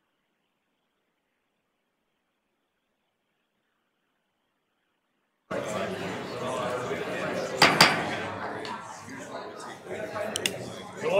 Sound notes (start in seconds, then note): 5.5 chattering; 7.6 gavel clunking